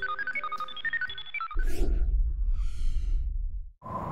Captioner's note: whoosh; air rushing